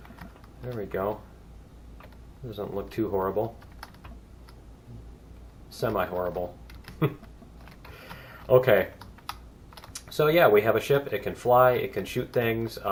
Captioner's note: laughs